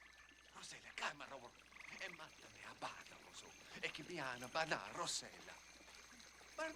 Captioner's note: speaking in illyrian language